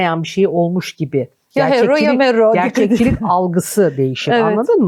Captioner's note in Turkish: kahkaha